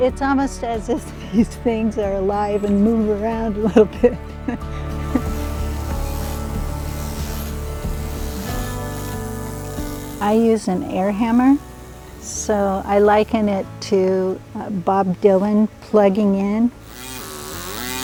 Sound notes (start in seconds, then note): 4.6 air hammer; 5.5 laughs; 16.8 air hammer